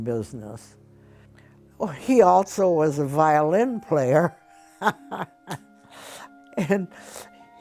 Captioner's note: laughs